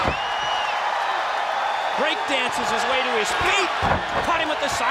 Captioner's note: applause